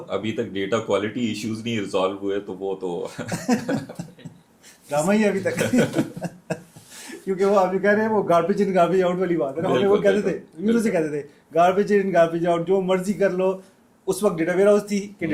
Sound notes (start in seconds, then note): 3.1 हंसी